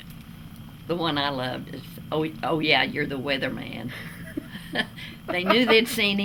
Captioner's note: laughter